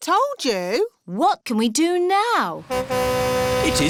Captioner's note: horn honks